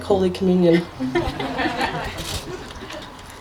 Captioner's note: laughter